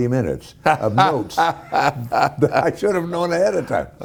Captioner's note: Ken Howard laughing